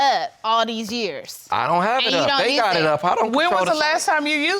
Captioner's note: stutters